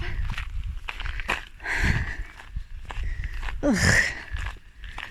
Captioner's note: sigh